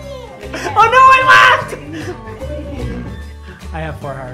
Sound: laughs

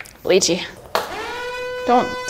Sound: alarm

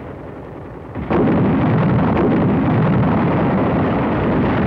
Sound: explosions

